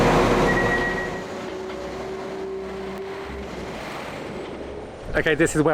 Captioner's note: train engine